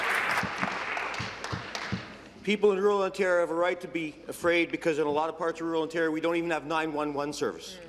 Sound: applause

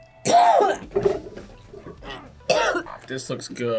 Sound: coughs

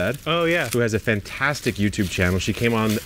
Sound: plants rustling

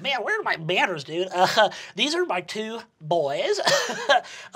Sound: chuckles

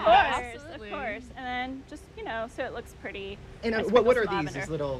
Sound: laughs

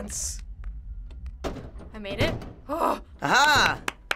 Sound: clattering; clapping

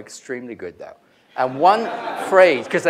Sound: laughter

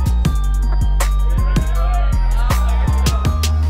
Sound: cheering

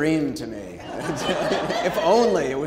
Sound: audience laughing

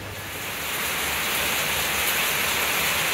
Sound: heavy rain

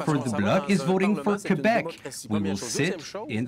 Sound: speaking French; voice of translator

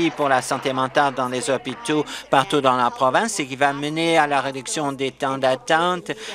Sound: applause

